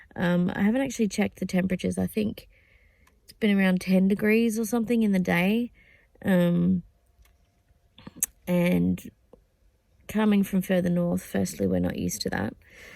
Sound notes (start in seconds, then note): none